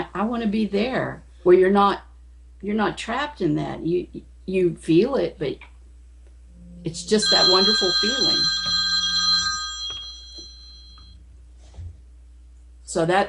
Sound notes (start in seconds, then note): 8.8 phone ringing